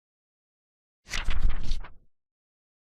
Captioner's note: sound effect of pages turning